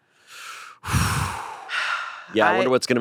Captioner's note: they both exhale